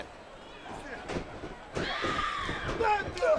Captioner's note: crowd chatter